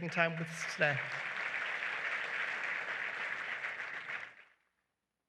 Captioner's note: applause